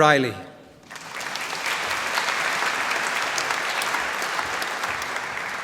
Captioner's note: applause